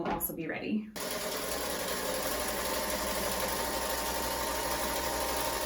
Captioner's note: machine whirring